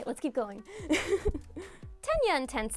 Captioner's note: laughs